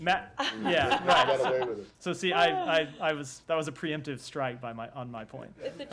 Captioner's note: laughter; laughter